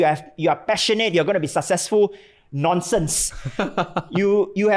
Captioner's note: laughs